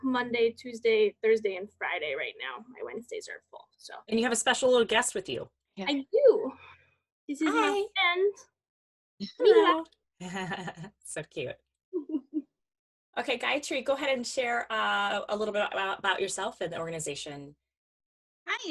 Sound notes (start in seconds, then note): 7.4 murmurs; 10.2 chuckles